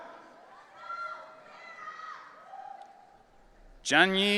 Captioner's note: audience cheering